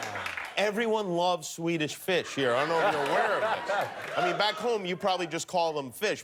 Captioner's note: laughter